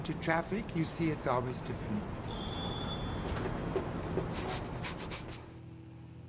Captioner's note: laughing